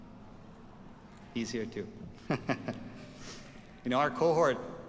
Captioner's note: chuckles